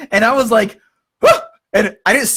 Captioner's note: screams